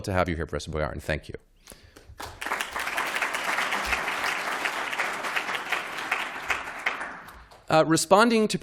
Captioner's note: applause